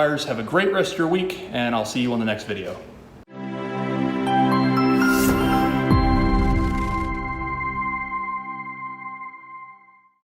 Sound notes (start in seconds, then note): 3.2 soft music; 4.8 logo whooshing